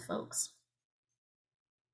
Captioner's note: silence